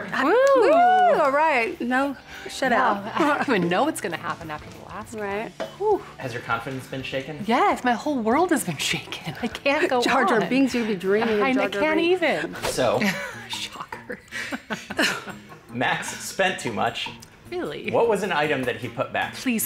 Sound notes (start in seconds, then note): 12.8 chuckles; 16.8 sarcastically